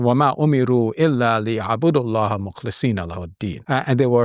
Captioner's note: speaking Arabic